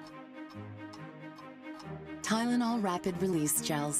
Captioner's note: clock ticking